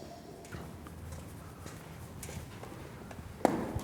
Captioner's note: feet clomping